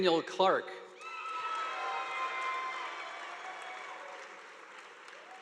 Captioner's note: audience applauding